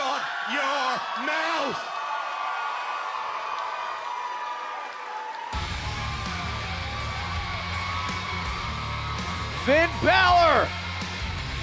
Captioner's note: cheers and applause